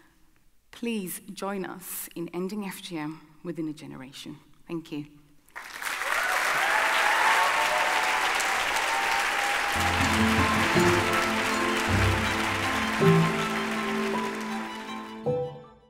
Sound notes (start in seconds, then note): 6.2 audience applauding